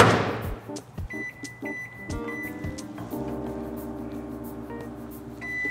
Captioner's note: microwave beeping